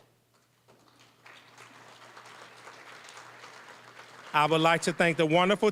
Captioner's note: applause